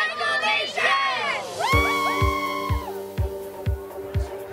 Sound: group cheers; upbeat groovy music

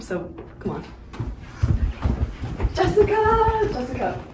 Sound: speaker running

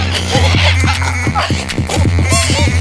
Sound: choking in excitement

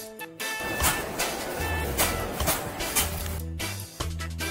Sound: ice bag cracking on counter

